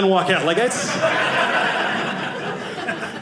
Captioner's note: audience laughing